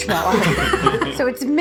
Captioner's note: all laughing